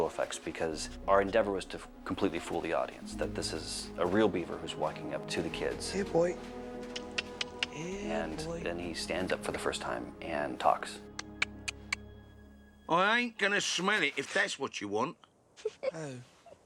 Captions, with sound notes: because our endeavor is to completely fool the audience, that this is a real beaver who's walking up to the kids. Here, boy. Here, boy. And then he stands up for the first time and talks. (CLICKING TONGUE) I ain't gonna smell it, if that's what you want. (CHUCKLES)